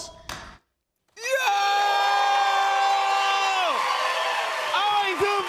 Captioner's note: cheers and applause